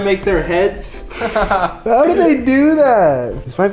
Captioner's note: chuckles